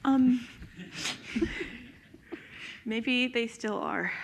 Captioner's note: crowd laughs